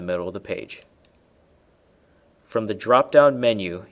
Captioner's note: mouse clicking